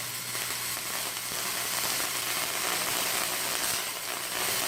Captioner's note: electricity buzzing